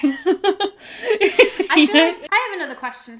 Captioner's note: both laugh